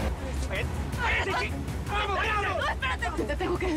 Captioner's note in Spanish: Gritan al unísono